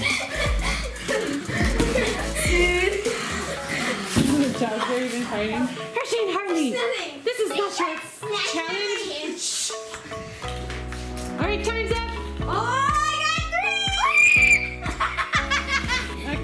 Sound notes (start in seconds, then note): 0.0 laughing; 13.9 screaming; 14.8 laughing